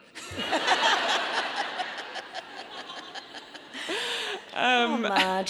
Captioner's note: audience laughing